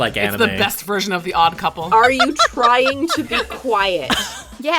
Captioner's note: laughs